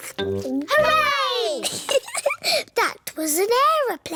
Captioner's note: giggles